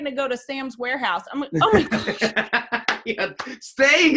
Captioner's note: laughs